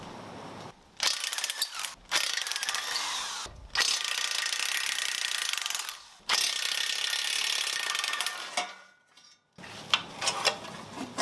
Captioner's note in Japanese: 作業音